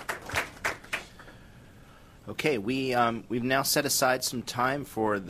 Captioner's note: applause